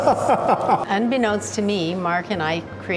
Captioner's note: laughs